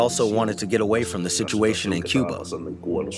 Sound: through translator

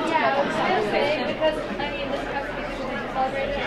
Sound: murmuring; murmurs

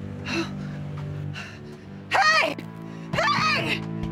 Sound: gasps

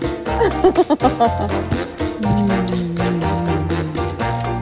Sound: laughs

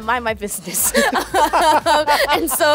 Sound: laughter

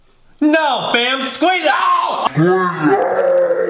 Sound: shouting

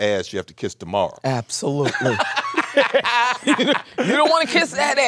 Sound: Samuel laughing

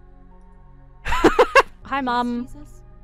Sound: laughs

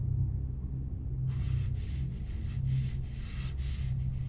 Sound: breathes heavily

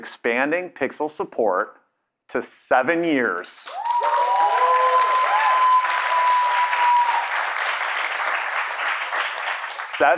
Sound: cheers and Applause

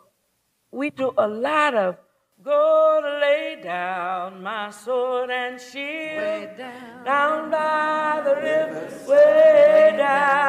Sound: sing-song tone

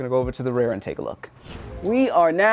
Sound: air whooshing

